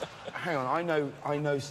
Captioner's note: laughter